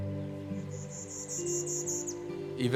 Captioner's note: Bachman's Warbler calling